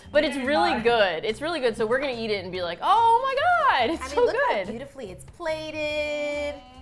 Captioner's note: gleefully